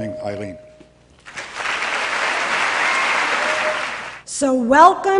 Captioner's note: applause